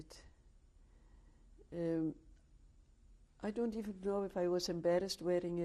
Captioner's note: pauses for 3 seconds